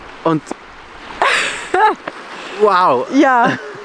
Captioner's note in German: Lachen